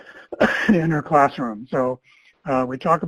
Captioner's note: chuckles and coughs